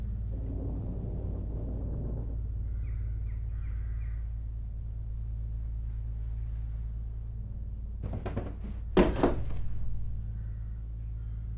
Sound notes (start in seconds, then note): 8.0 light clattering